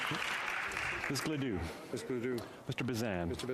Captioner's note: speaking French